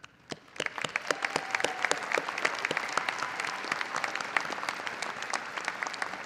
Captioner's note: audience cheering and applauding